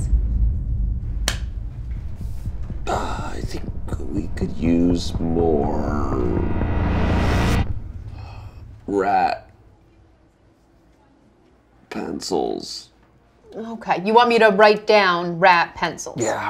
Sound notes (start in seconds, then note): 0.2 ominous music; 1.2 claps hands; 7.7 ominous music stops